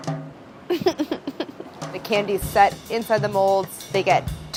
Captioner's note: laughs